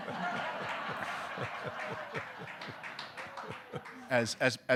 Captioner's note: audience laughing